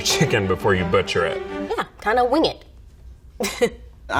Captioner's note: laughs